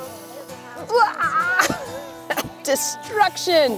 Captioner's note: laughs